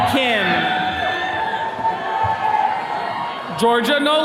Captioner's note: attendees cheering